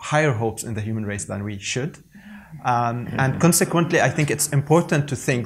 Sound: crowd laughs

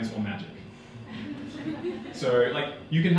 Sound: audience laughing

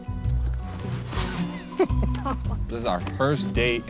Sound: laughing

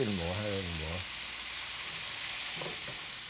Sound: hissing

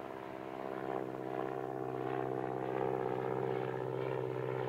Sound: plane engine roaring

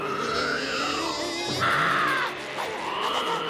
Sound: screaming

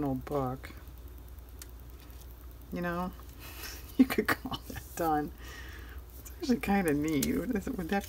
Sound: laughs

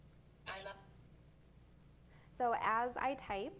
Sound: electronic Voice

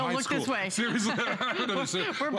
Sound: laughter

